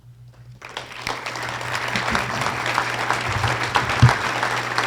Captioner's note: audience applause